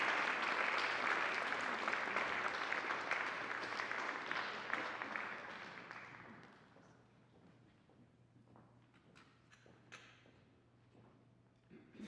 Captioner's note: attendees applauding